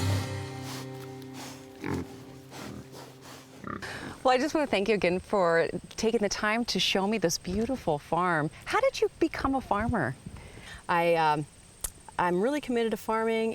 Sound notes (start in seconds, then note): 0.5 pigs snuffling and snorting